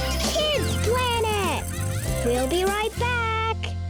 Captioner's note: children laughing